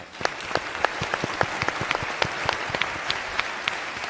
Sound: applauds

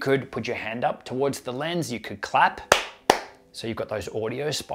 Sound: claps

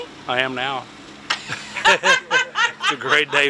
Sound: both laughing

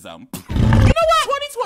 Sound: loud roar

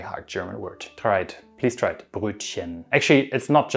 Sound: speaking German word; speaking German word

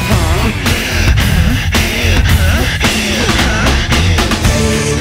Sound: breaking heavily

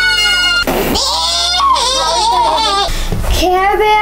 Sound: girls screams

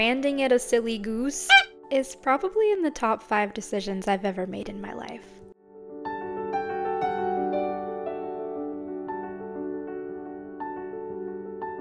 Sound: honk noise

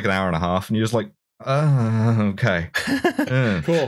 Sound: laughs

